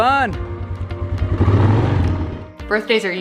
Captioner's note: engine revving